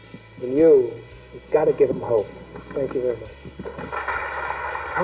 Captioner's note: clapping on audio recording